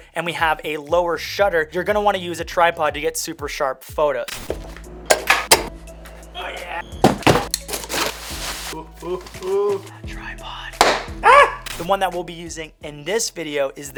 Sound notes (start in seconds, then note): 5.1 knocking sounds; 7.0 opening a box